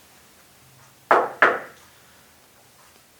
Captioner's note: knock, knock